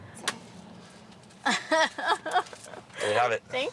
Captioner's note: laughing